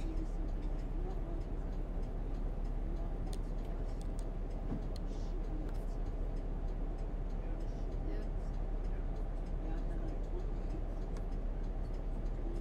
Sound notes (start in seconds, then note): 5.6 bus hums, people murmur quietly